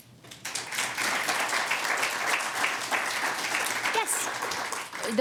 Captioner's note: audience applauding